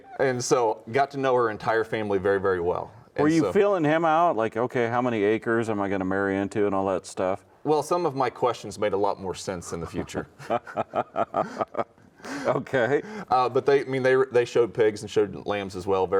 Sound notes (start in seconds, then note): 9.8 both chuckling